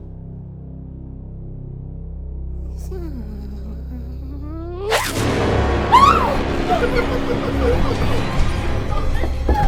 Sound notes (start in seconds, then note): 4.9 dramatic music; 4.9 doll shouting; 5.8 girls screaming; 5.9 elf laughing